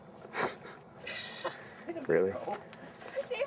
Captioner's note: chuckling